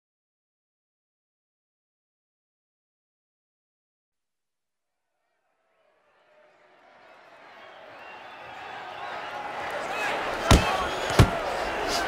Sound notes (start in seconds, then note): 5.1 crowd cheering